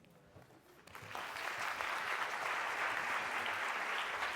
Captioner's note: applause